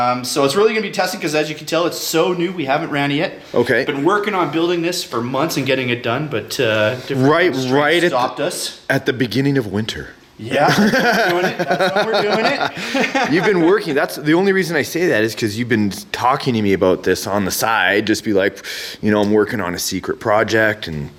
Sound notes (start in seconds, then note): 10.6 laughter